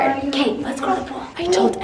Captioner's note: whispers